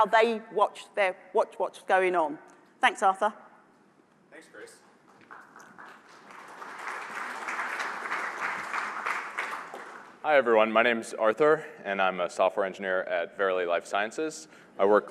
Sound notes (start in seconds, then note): 5.0 applause